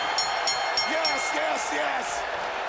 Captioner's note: bell ringing